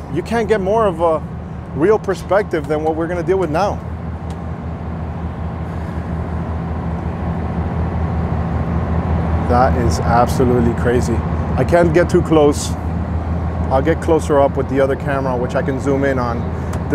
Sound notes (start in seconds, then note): 6.4 boat roars